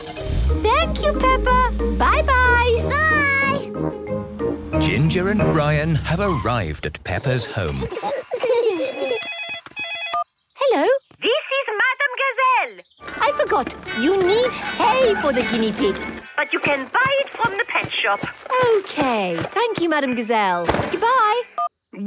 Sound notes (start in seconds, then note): 7.2 giggling; 9.0 phone ringing